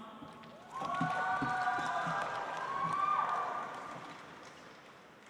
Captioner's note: audience applauds